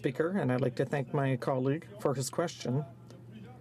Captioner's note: speaking in french